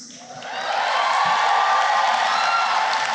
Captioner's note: cheering and applause